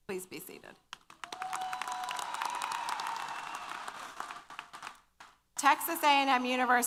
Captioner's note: applause & Cheers